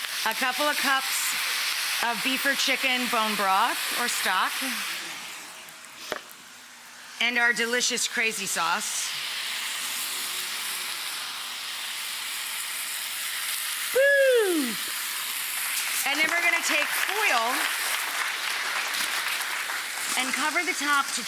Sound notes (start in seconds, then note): 16.2 audience applauding